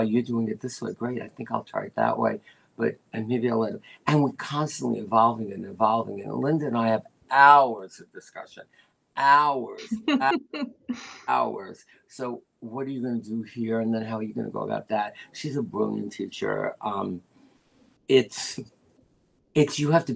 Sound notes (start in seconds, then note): 10.5 laughter